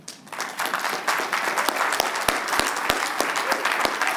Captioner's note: applause